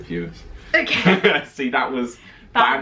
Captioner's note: laughing